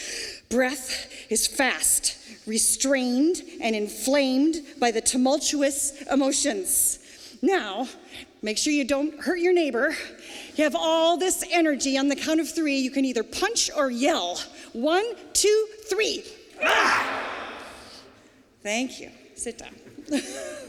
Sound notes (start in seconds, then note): 16.6 yelling